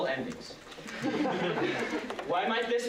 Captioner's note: laughter